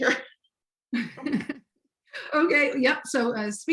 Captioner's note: both laughs